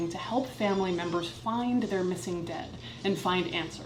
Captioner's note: none